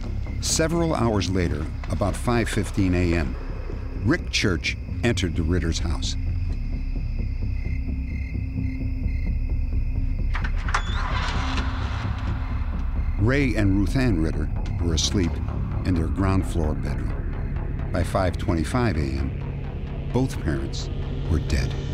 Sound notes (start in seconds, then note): 8.7 crickets